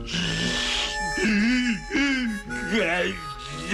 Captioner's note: crying